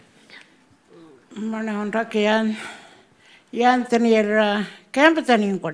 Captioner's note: speaking Anmatyerr